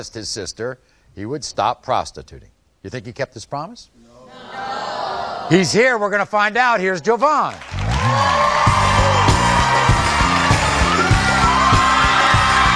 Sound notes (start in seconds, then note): 7.4 audience applauding; 7.8 upbeat music